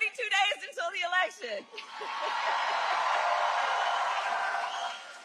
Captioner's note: cheering and applause